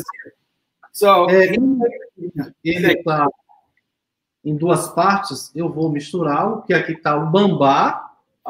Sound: speaks portuguese

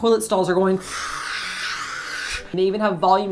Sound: fwoosshhh

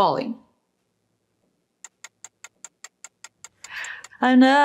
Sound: timer ticking

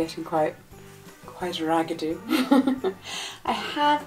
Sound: laughs

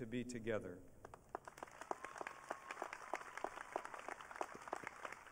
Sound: audience cheering

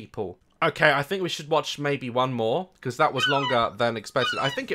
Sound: seagull screech

